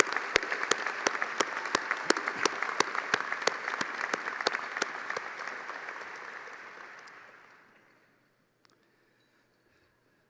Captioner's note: applause